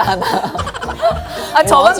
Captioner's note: hahaha